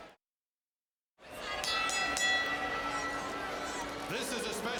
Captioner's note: bell ringing